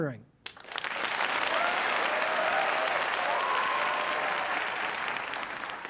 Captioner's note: applause